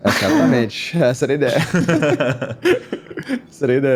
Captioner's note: laugh